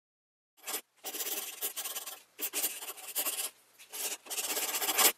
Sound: pencil scribbling

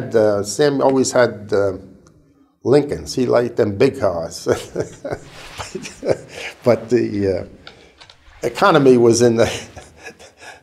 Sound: chuckle

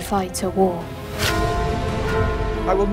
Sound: bell chimes

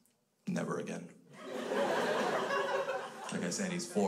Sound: crowd laughs

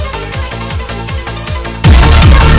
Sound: earapeboom

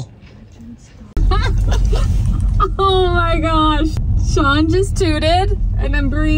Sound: laughs

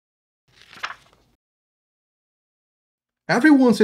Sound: pages rustling

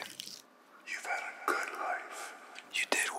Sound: echoes

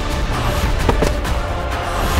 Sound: impact grunts

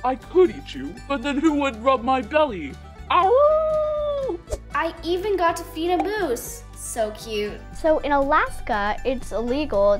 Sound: howl

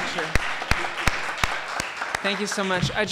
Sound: claps; audience applauding

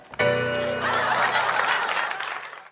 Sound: laughter

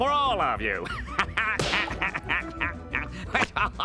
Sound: laughing

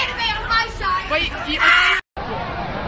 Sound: screams

